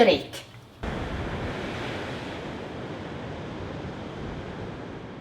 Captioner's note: waves crashing